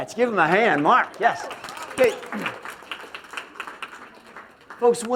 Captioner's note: applause